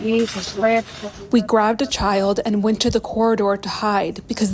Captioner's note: through translator